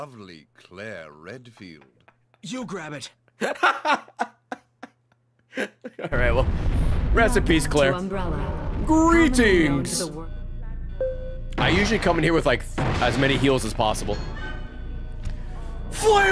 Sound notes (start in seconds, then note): 3.3 laughs